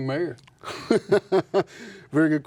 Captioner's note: laughs